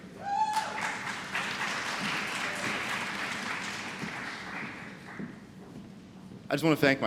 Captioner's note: applause